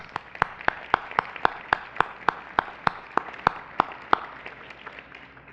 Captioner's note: applause